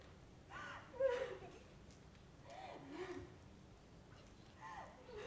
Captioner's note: woman continues crying